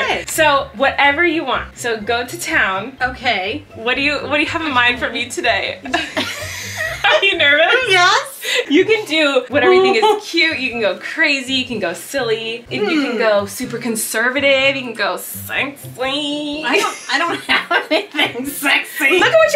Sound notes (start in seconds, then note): 5.8 both laughing